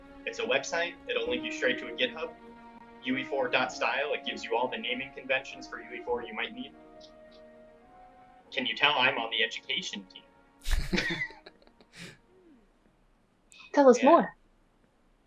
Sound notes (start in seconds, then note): 10.6 laughter